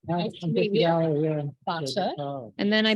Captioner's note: people chattering